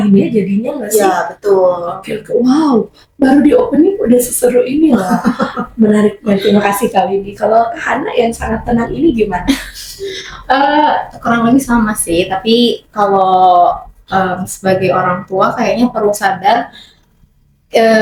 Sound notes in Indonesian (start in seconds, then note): 4.9 tertawa